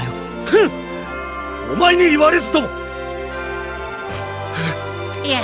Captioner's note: sniff